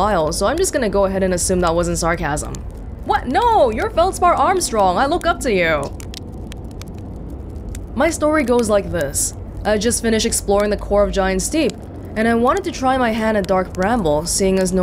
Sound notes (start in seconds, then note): none